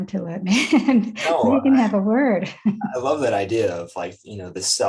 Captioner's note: laughs; chuckles